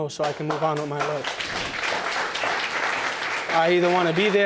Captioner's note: audience applauds